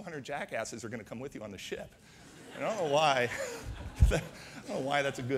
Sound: audience laughter

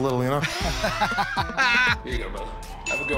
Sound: laughing

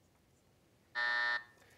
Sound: buzzer

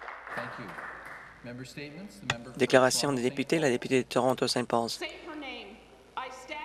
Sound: some Applause

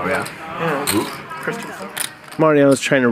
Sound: players murmuring

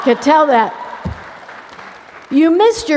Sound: applause

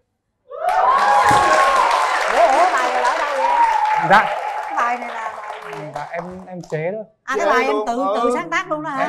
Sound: clap hands

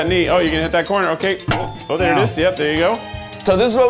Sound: metallic banging

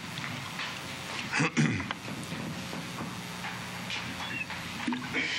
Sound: clears throat

